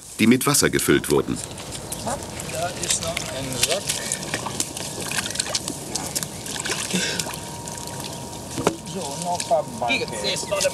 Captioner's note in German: Arbeitsgeräusche und -gespräch